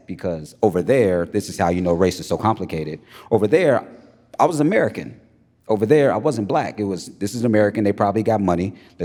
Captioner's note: none